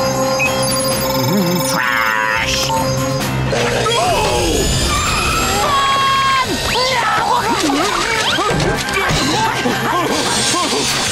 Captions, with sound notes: Trash! No! Run! [yelling]